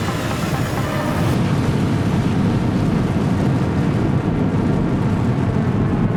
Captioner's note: rocket roaring